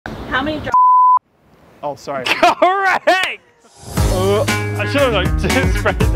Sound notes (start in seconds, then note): 0.7 beep